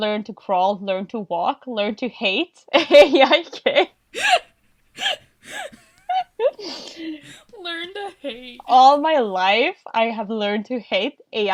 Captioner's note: laughs